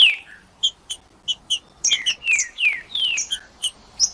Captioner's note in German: trinca ferro cantando